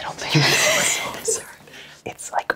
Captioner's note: everyone laughs